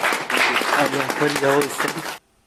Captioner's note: applause